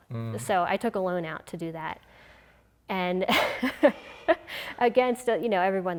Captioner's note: laughing